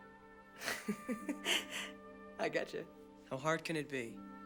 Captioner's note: laughs